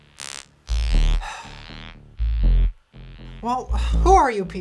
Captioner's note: sigh